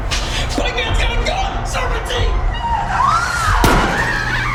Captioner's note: kids yelling; Sheila screaming; gun firing